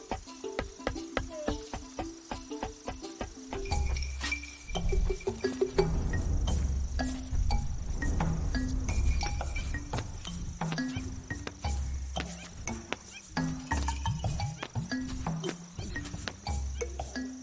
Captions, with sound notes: (rope thumping) (dramatic music) They spend their days gathering wild plants and roots from the land. (dramatic music)